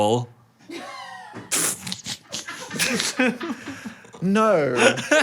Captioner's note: and crew members laugh